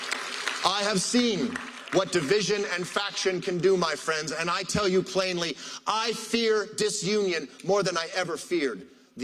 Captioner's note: applause